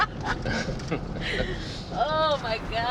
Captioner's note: laughs